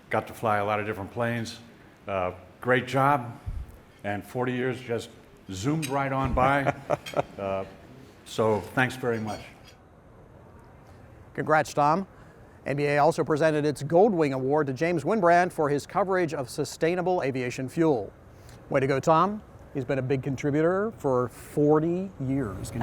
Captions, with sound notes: Got to fly a lot of different planes, great job, and 40 years just zoomed right on by. (laughter) So, thanks very much. Congrats, Tom. NBAA also presented its Gold Wing Award to James Wynbrandt for his coverage of sustainable aviation fuel. Way to go, Tom. He's been a big contributor for 40 years,